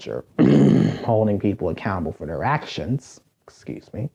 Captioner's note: coughs